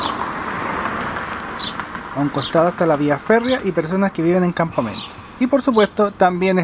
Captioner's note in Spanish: pájaros